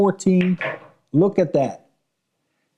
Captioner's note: balls clinking